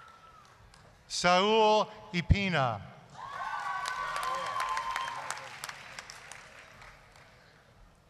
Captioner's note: applause, cheering